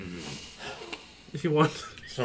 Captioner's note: breaks up laughing